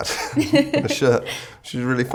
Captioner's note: laughing